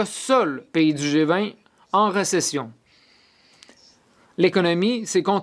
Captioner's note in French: voix de l'interprète